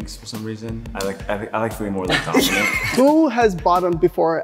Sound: snickering

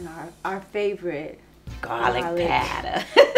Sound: laughs

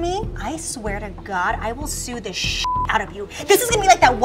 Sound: beep

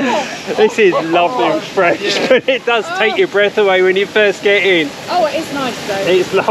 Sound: laughter; laughter

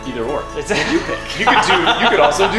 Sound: laughing

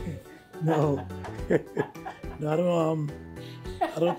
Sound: both chuckling

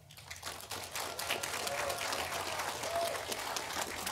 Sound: audience applauding

